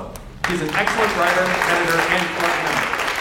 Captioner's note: audience applauds